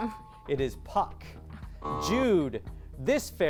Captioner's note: buzz